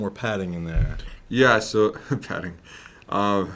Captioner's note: chuckles